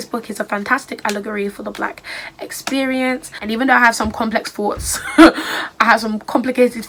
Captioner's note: laughs